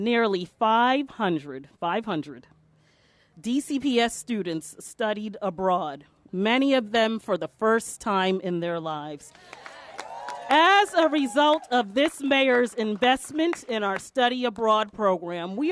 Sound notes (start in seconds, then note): 9.3 applause